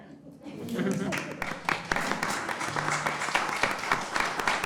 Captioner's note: audience applauding